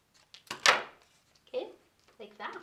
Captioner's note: scissors clatter